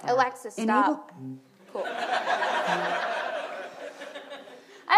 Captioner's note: audience laughs